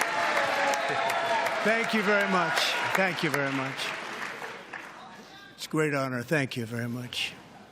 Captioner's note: applause